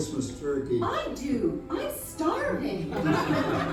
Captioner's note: Toute la famille éclate de rire